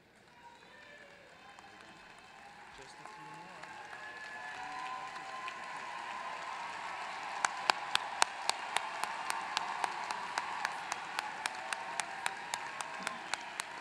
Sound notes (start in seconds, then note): 6.4 applause